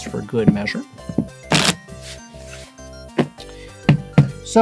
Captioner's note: shuffling